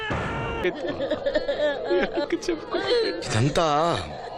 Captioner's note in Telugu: నవ్వు